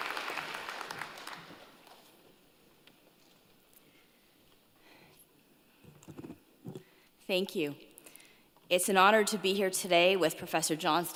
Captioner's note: applause